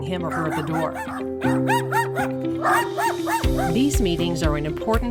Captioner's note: dog barking